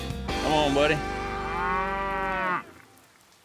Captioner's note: mooing